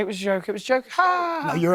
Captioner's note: fake laughs